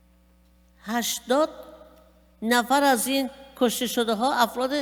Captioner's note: speaking persian